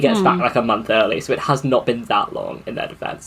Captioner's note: laughs